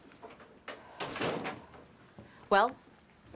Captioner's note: door thudding